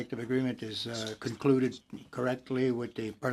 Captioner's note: speaking French